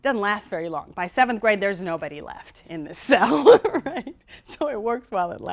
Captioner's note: laughter